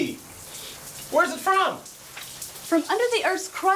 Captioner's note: sniffs